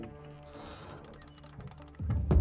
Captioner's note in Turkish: Kapı sesi